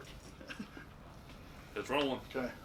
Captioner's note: men laugh